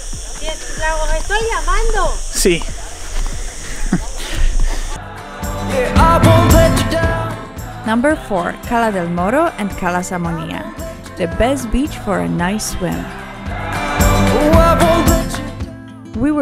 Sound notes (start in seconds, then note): 1.1 woman speaks in foreign language; 2.4 speaks in foreign language